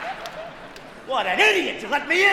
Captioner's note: laughs